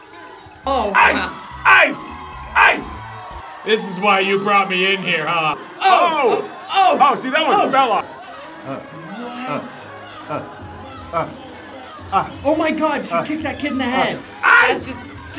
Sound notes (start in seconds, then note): 1.1 vocalizing; 10.1 vocalizing